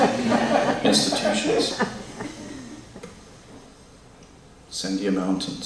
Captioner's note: laughter